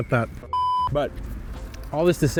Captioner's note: audio beeps